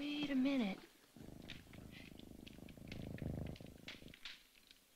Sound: purring

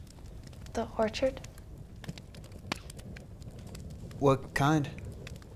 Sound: fire crackling

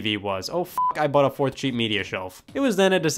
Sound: beeps

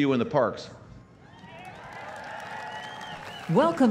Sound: cheering and applause

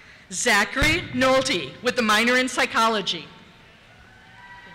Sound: cheers

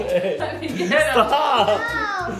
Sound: laughing

